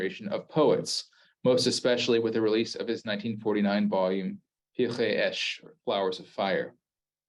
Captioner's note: Hebrew